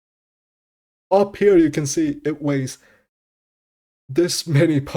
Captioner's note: breathes